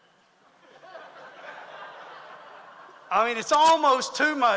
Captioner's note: audience laughs